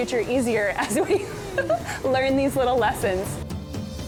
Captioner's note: chuckles; upbeat music